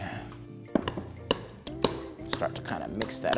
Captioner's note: clattering